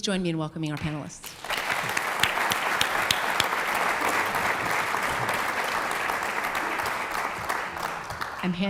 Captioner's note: applause